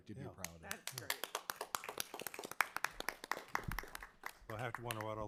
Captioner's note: crowd applauding